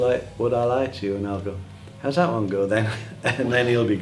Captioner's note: laughs